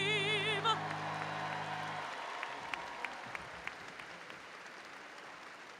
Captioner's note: audience applauding and cheering